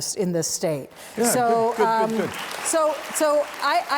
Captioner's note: audience applauds